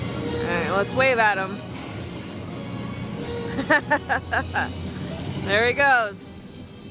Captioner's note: laughing